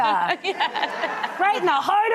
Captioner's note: laughter